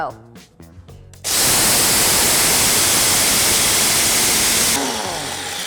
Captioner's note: blenders whirring loudly